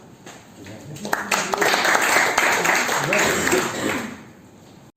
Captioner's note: applause